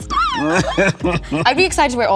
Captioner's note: Colman laughs